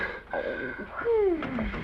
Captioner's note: Danny snores